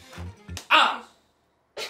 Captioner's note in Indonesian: Menampar